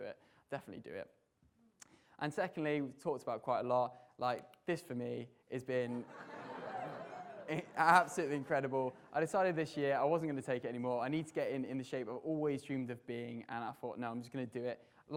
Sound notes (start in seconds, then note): 6.0 audience laughter